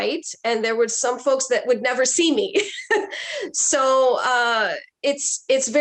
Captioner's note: chuckles